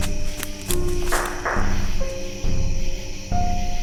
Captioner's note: two distant gunshots